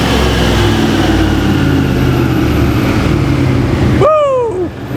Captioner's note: engine revving loudly